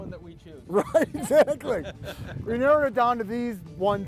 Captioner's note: laughing